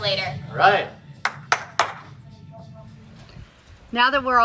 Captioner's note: hands clap